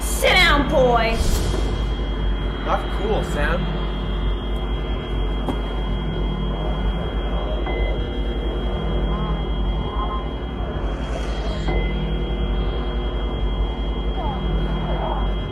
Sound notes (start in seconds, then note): 8.2 swirling whispering, high pitched sounds, start & continue